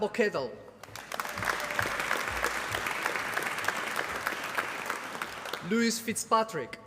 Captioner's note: applause